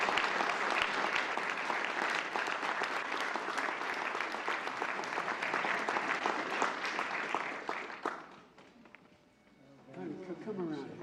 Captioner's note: applause